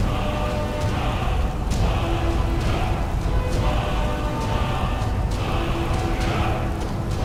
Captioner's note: chanting